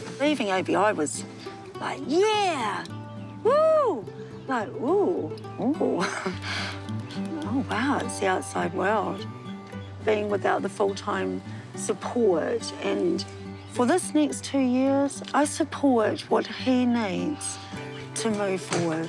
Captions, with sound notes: Leaving ABI was like, 'Yeah! 'Whoo!' Like, 'Ooh. 'Ooh.' (CHUCKLES) 'Oh wow, it's the outside world.' Being without the full-time support and... For this next two years, I support what he needs to move forward.